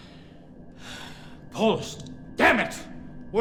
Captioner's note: sighs